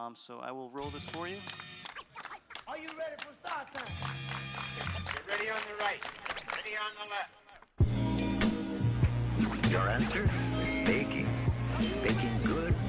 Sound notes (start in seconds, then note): 2.8 clapping